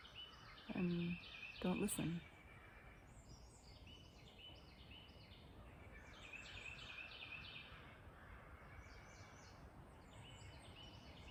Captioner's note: birds chirping